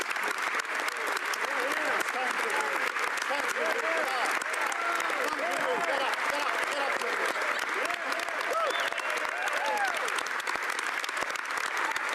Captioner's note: applause